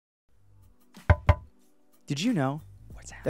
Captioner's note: knocks